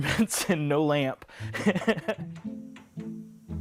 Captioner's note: laughing